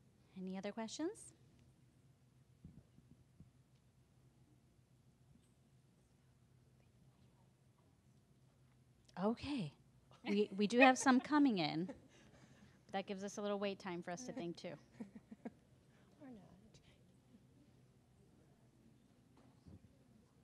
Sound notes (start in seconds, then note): 4.3 silence; 17.5 silence